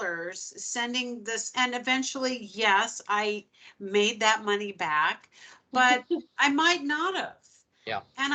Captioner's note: chuckling